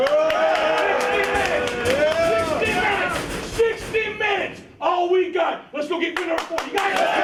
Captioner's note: cheers and applause